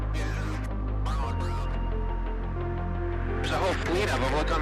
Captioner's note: pilot speaks faintly